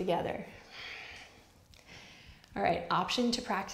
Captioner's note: breaths softly